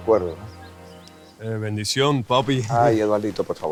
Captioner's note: deep voice